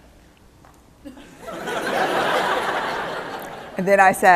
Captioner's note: laughter